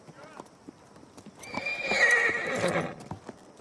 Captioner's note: neighing